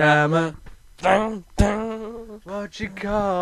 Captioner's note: mimicks guitar